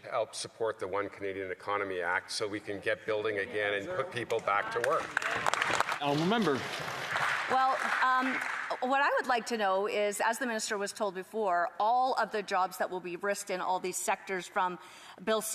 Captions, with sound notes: decade. >> Mr. Speaker I'm glad to members on the opposite side are worried about jobs so they should help support the One Canadian Economy act so we can get building again and get people back to work. [Applause] >> What I would like to know is